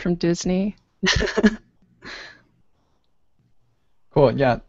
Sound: chuckles

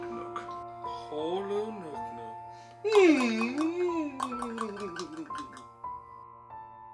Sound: gibberish Clicking and Humming

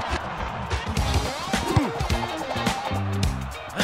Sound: grunting

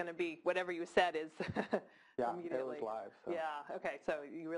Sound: laugh

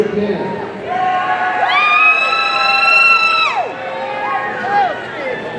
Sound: audience cheering

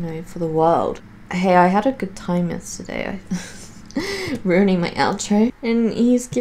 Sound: laughs

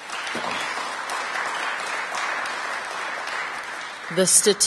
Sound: applause

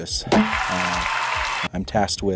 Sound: crowd cheering; confetti popping

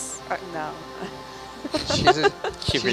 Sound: laughs

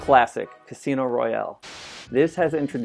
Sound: static noise

